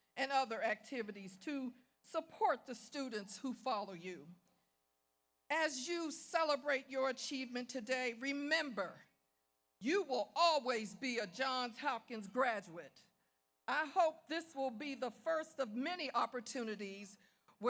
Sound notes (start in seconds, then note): none